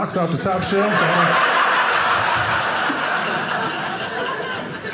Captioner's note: audience laughing